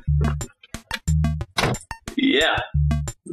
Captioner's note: door slams